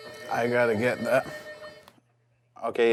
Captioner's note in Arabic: رنين الهاتف